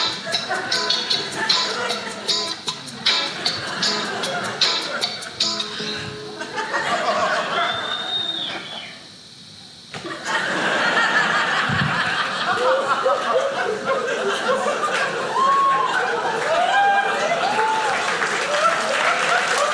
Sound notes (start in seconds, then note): 0.0 audience laughing; 10.1 audience cheering; 16.7 audience cheering